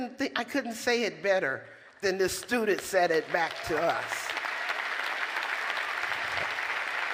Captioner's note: applause